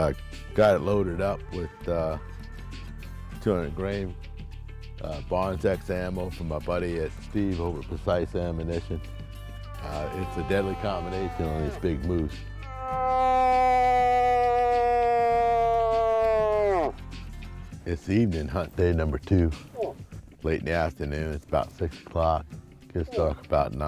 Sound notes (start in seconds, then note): 12.6 bellows